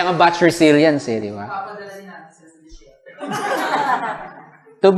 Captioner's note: laughter